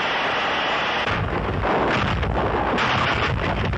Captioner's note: thundering